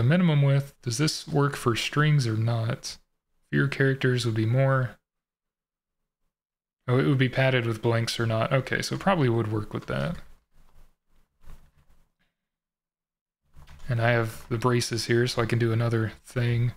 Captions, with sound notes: minimum width, does this work for strings or not? If your characters would be more... Oh, it would be padded with blanks or not. Okay, so it probably would work with that. [typing] And I have the braces here, so I can do another thing.